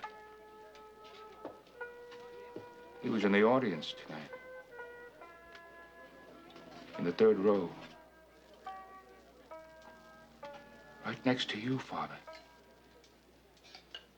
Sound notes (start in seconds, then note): 9.6 cars honking